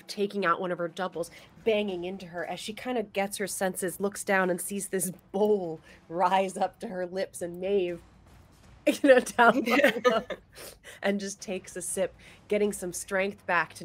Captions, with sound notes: taking out one of her doubles, banging into her as she kind of gets her senses, looks down and sees this bowl rise up to her lips and Maeve, you know, down, (laughs) and just takes a sip getting some strength back